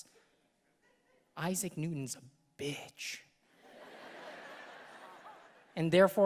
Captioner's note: audience laughing